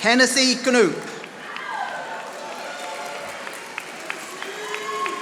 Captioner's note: audience applauding